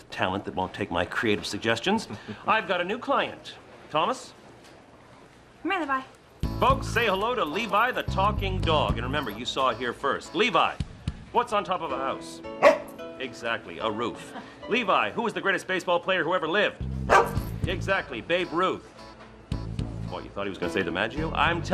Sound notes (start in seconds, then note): 2.0 chuckling; 12.6 woofing; 17.0 woofing